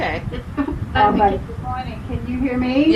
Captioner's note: giggling